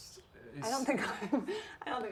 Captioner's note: chuckles